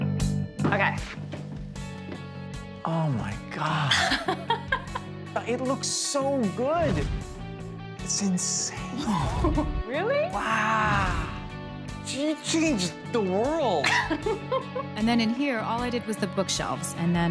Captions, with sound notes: Okay. Oh, my God. [ Laughs ] It looks so good! It's insane. Really? Wow! You changed the world! And then, in here, all I did was the bookshelves,